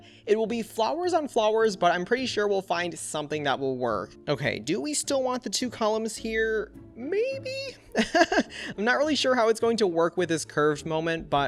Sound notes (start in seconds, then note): 7.9 laughs